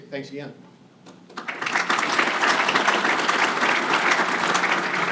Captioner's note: applause